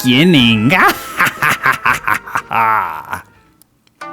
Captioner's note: ominous laughing